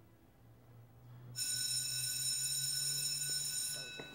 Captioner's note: bell rings